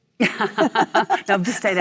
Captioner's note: Cate and Michelle laugh